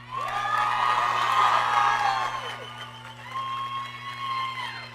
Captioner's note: audience cheering